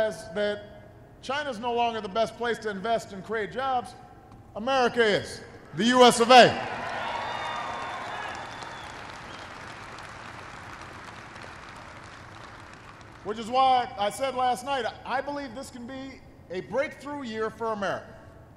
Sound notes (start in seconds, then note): 6.3 applause